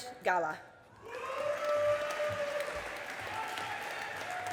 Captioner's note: audience applauding